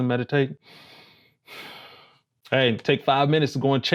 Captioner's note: breathes softly